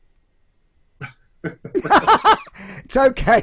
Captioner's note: laughs loudly